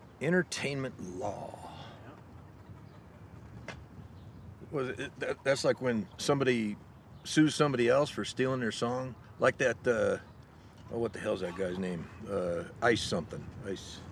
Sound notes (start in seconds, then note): 4.8 stammers